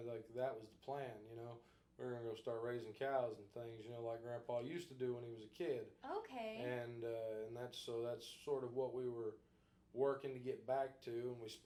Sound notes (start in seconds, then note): none